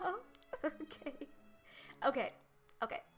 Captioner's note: laughter